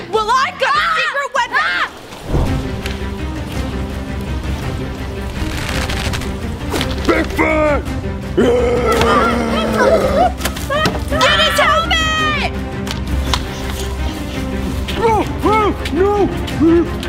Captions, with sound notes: - Well, I've got a secret weapon! (dramatic orchestral music) - Bigfoot! Yeah! (kids shout) - Edith, help me! - No, no! No, Bigfoot!